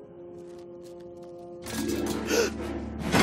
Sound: gasping; clanging

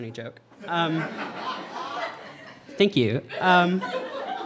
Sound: audience laughter

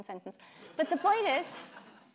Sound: audience laughing

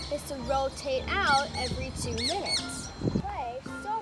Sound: super loud birds

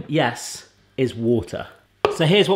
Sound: none

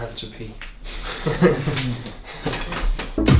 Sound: laughs

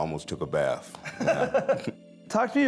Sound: laughing

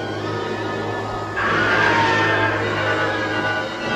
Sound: screaming

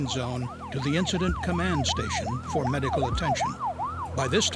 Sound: sound of sirens

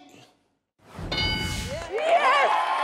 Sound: people applauding

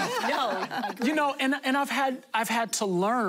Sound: laughter

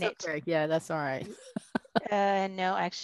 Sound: chuckling

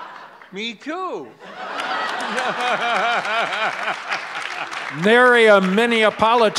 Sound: laughs

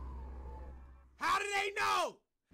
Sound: screaming

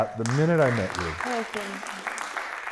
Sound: applause

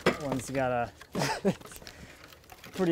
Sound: metal clanging; laughs

